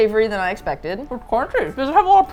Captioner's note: mouth full